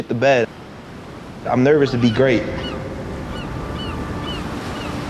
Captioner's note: seagulls squawking